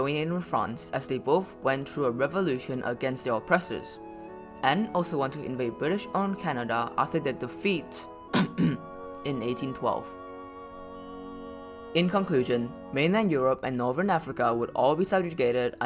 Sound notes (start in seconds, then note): 8.3 cough